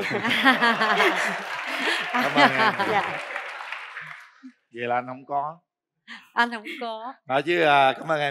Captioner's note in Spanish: Aplaudir